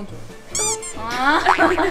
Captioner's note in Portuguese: Pyong!